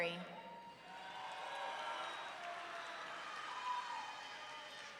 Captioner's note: audience cheering